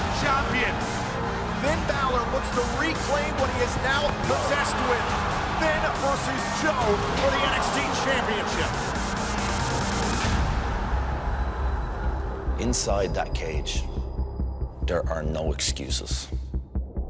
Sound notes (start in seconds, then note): 3.4 crowd cheering